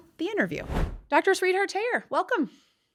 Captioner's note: screen whooshing